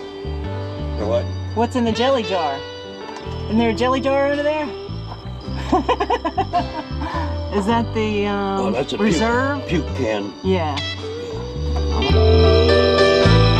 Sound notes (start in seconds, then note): 5.5 giggling